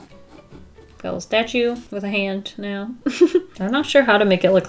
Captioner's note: laughs